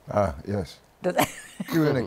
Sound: laughs

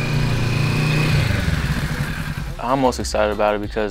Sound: engine revs

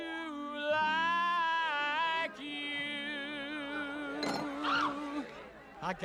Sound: woman Screams

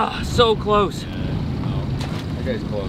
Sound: groans

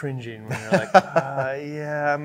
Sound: chuckle

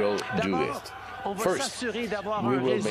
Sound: speaking French

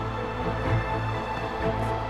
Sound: cheering

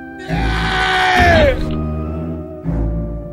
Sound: death Noises

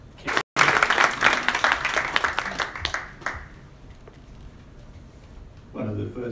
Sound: applause

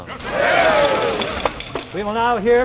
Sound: tambourines jingling; men cheering

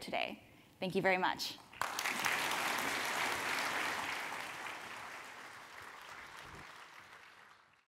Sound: applause

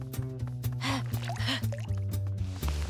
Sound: panting

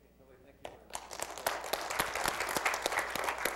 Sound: applause

